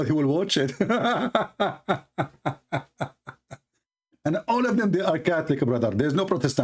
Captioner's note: Ketawa